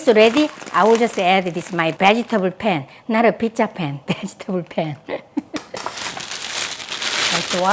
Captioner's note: laughs